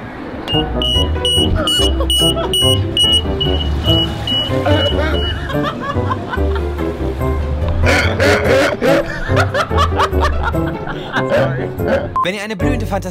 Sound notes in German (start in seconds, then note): 0.5 Feueralarm; 4.6 lacht